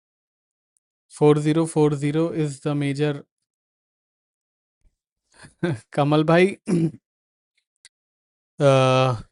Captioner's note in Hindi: गला साफ़ करने की आवाज़